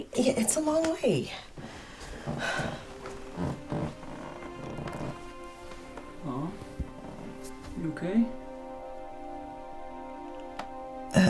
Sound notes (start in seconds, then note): 1.6 sighs; 2.4 gentle music